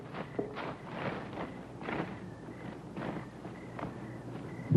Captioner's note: leaves crunching